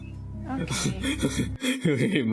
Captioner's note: chuckles; chuckling